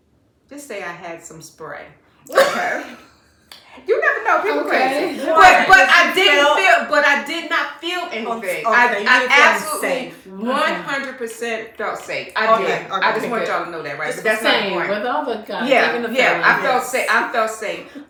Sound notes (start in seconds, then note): 2.3 laughter